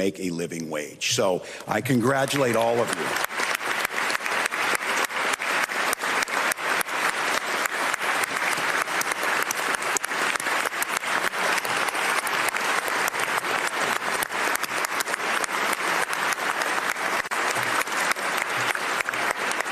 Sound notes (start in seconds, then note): 7.0 applause